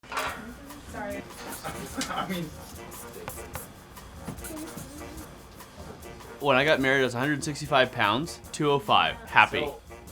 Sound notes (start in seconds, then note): 0.1 jazzy music; 2.5 chattering